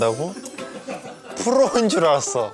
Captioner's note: haha